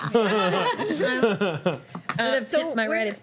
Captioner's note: laughing